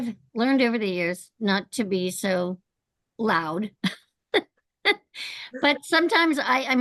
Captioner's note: laughs